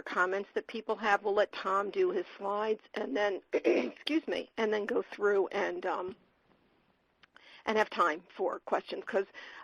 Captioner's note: clears throat